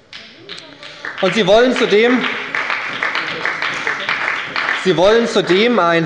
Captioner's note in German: Beifall bei der SPD